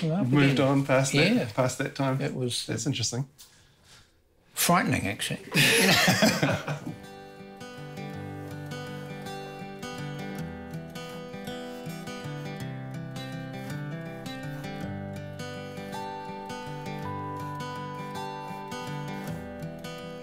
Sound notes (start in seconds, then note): 5.5 laughs; 6.5 gentle music